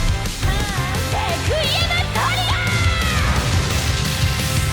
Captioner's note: rock music playing; yelling